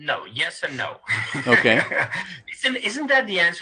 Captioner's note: laughter